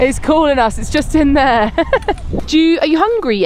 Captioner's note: laughs